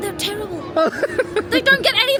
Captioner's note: laughing